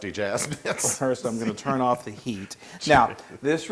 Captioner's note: laugh